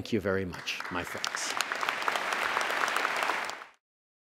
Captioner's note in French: Applaudissements